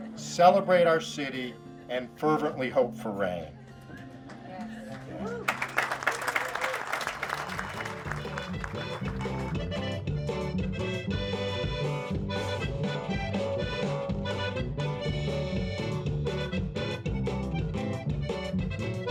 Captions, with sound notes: celebrate our city, and fervently hope for rain. (clapping) (mariachi music)